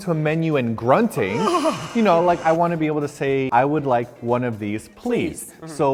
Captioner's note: grunts